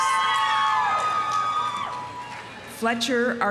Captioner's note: audience applauding; audience cheering